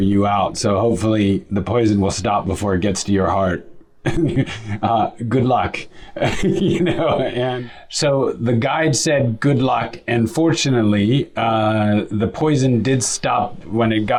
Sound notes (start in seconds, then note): 6.1 laughs